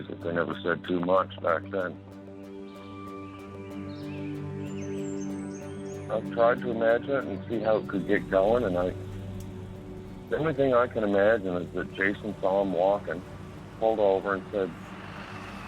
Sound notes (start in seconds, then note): 2.6 birds tweeting; 2.6 soft unsettled music